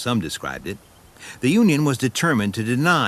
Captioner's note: none